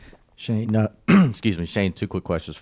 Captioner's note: clears throat